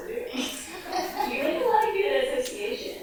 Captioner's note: audience laughs